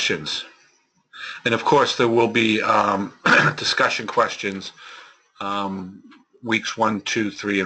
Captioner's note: cough